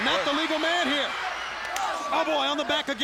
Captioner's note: crowd cheering; hand smacks